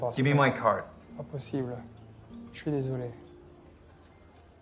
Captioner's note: French